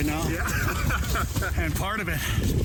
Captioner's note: laughs